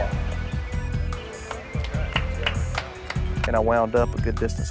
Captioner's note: apapplplauausese